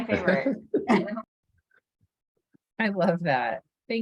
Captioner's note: laughter